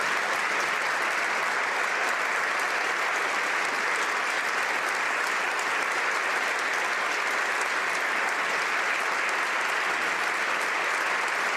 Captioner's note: applause